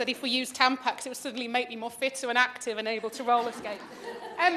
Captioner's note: laughter